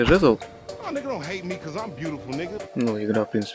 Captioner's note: angry deer sounds